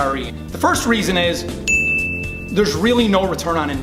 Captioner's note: ding